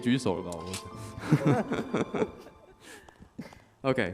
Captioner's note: laughs